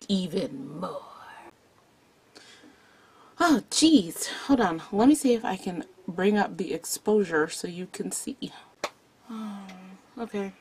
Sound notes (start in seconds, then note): 2.4 soft exhale; 9.2 disappointed sigh